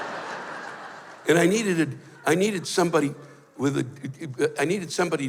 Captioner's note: laughter; stammers